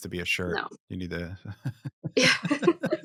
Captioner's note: chuckles